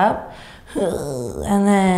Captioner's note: groans